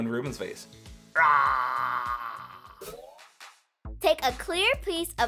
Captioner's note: roaring